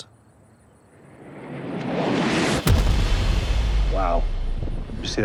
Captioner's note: round whooshing